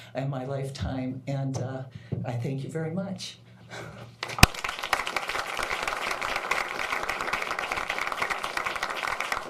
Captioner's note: applause